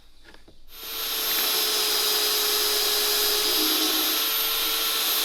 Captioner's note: drilling sound